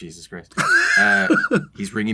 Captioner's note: laughs